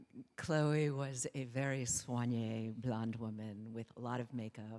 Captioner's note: speaking foreign language